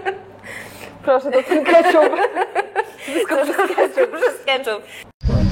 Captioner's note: laughs; laughs